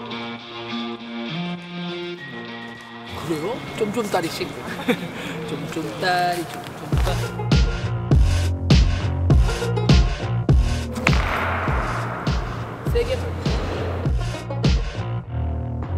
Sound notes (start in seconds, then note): 11.0 crash